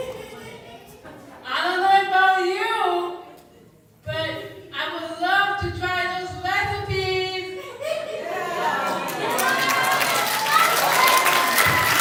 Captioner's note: laughter, applause